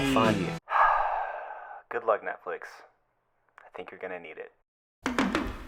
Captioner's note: sigh